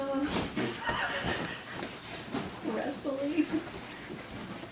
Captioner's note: laughs